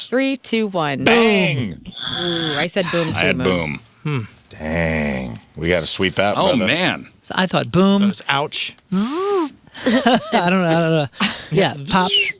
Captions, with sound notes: Three, two, one. I said boom to him. I had boom. Dang. We got to sweep that. Oh man. I thought boom. Ouch. (laughing) I don't know. Yeah, pop.